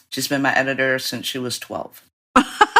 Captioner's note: laughter